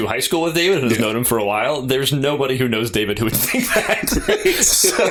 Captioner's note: laughter